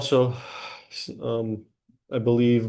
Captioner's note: sigh